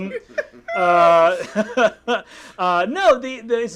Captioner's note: laughing